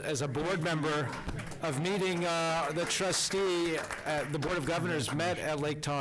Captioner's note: applause